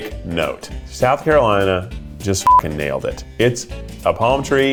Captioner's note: beep